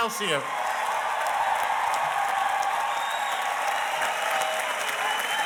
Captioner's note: audience cheers and applauds